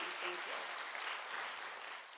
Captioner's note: applause